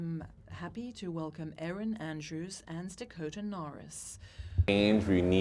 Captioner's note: speaking in French